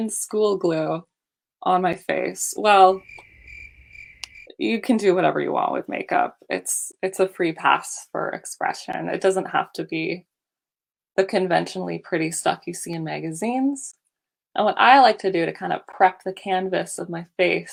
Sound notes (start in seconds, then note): 2.9 crickets chirping